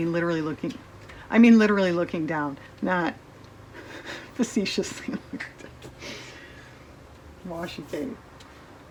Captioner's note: laughs